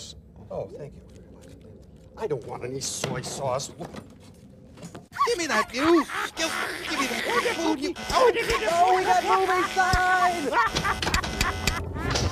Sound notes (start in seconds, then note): 6.4 buzzing; 10.3 laughing